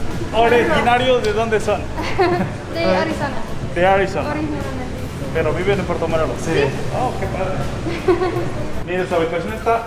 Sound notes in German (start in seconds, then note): 8.1 Lachen